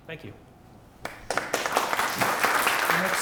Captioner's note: applause